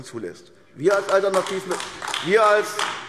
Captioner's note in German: Beifall AfD